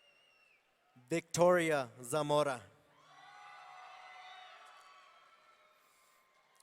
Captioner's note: audience cheering